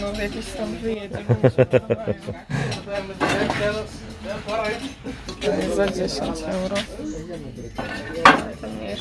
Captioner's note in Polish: śmiech